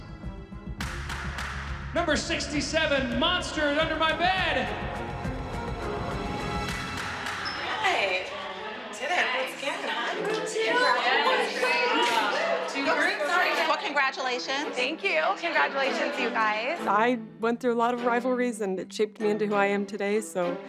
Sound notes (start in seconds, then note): 4.5 tense music playing; 9.9 indistinct chatter